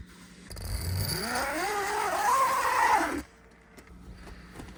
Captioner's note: zipper zips